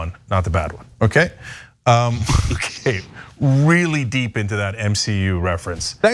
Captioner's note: laugh